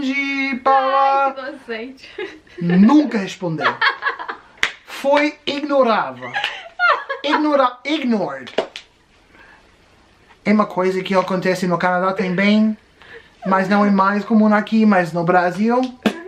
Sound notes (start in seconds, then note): 6.2 laughing